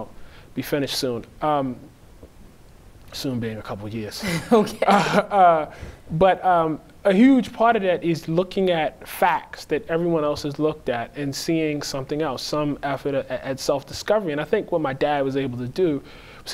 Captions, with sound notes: HOPEFULLY, I'LL BE FINISHED SOON... UM, "SOON" BEING "A COUPLE YEARS." >> (laughing) OKAY. >> UH, BUT, UM, A HUGE PART OF THAT IS LOOKING AT FACTS THAT EVERYONE ELSE HAS LOOKED AT, AND SEEING SOMETHING ELSE, SOME EFFORT AT SELF-DISCOVERY. AND I THINK WHAT MY DAD WAS ABLE TO DO--